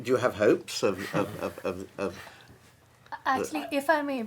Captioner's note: panelist chuckling